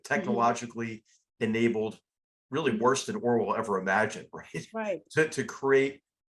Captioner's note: laugh